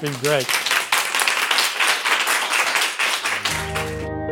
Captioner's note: applause